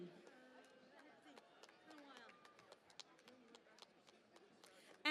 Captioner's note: cheering and Applause